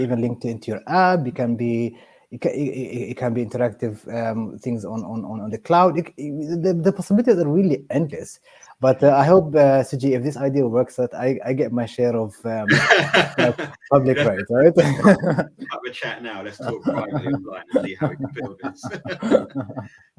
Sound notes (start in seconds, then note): 12.6 laughing